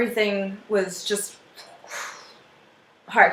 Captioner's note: exhaling